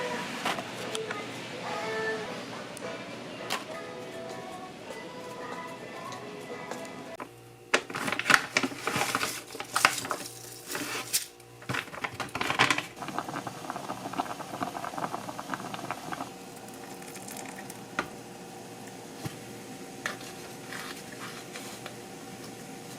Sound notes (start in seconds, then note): 12.4 blup blup